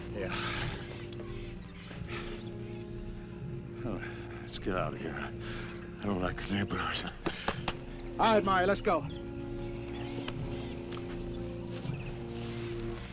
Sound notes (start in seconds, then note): 3.6 sighs